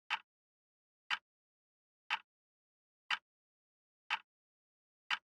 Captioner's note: tick